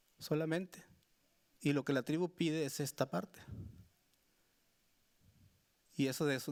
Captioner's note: speaking Spanish continues